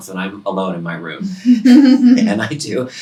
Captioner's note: chuckling